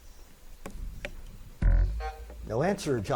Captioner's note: buzzer buzzes